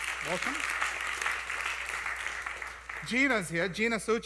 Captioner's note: applause